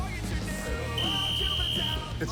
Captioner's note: whistle blows